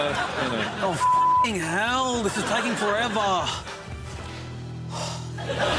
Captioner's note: heavy sigh